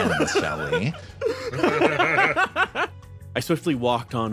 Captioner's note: laughs